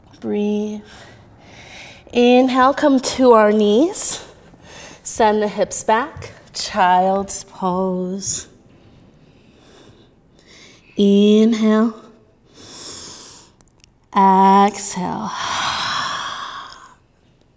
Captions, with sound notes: Breathe, inhale, come to our knees, send the hips back, child's pose. Inhale (inhaling), exhale (exhaling),